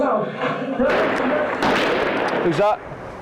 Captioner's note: gun blasts from TV